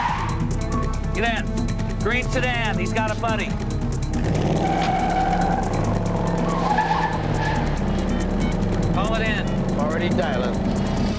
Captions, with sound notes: Get in. Green sedan. He's got a buddy. (tires squealing) (touch-tones beeping) Call it in. Already dialing.